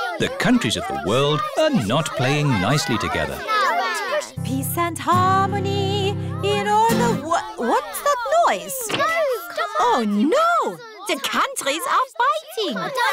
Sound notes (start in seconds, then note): 5.8 commotion